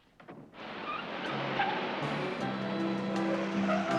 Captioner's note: tires Screeching